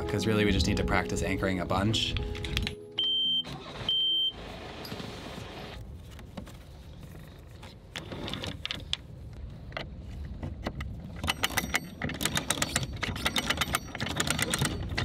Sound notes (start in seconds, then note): 2.9 boat beeps; 3.0 engine reviving; 11.1 chain rattling